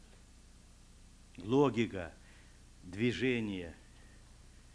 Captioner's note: non-english speech